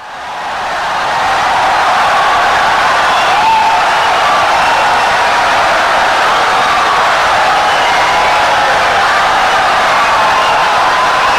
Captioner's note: wild applause and cheering for 17 seconds